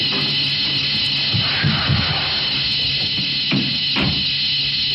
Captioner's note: suspenseful music continues; footsteps thumping